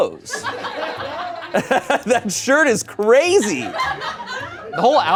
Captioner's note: laughs